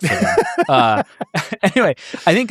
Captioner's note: laughs